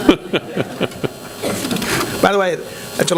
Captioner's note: laughter